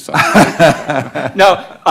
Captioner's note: laughing